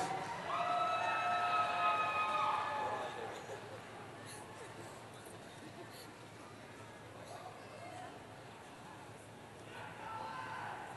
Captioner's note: cheering